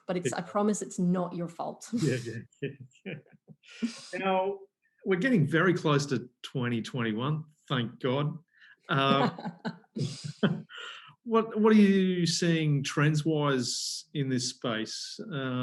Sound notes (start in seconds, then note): 2.0 both laughs; 8.9 laughs